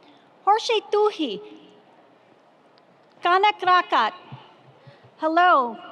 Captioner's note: speaking foreign language